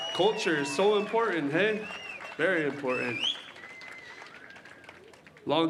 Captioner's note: cheering and applause